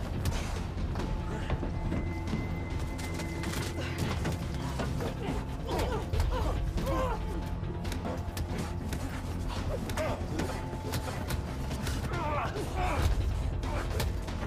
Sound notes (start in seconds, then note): 1.5 tense music continues; 5.9 people groaning; 7.4 blows thudding